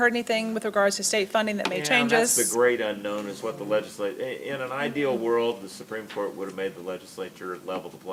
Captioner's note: none